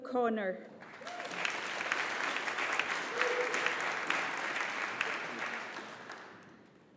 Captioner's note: audience applauding